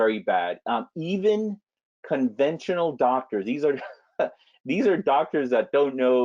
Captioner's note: laughs